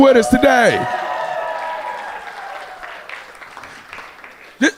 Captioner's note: audience cheering